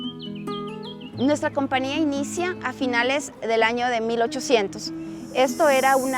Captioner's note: soft acoustic guitar music; speaking in spanish